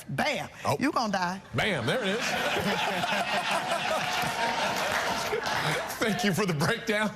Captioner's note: audience laughing